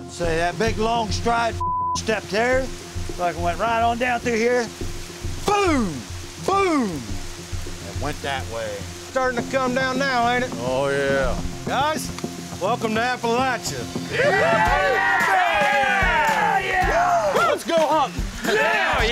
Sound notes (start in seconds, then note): 14.1 cheering